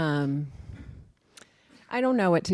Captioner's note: sigh